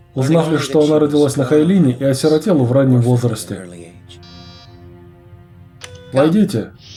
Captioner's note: door chime